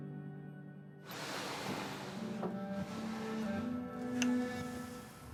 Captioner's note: TV stand sliding